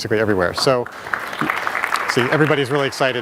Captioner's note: audience applauding